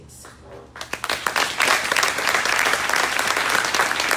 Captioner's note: crowd applauding